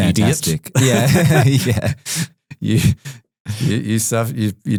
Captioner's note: laughing